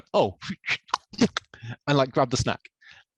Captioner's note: grunting and clicking